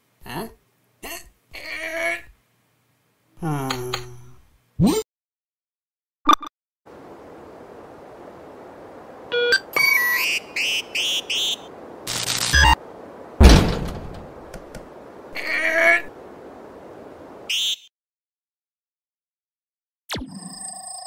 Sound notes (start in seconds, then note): 3.4 disappointed sigh; 9.3 teleporter beeps and sounds